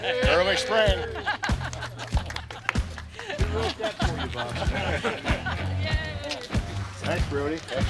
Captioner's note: laughing and chattering